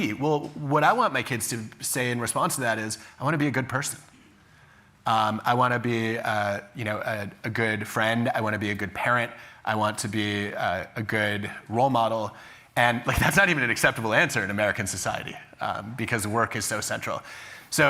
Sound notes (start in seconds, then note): none